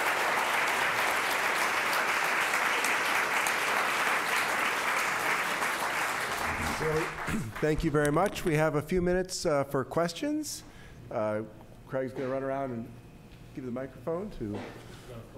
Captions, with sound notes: - So (clears throat) thank you very much. We have a few minutes for questions. Craig's gonna run around and give the microphone to--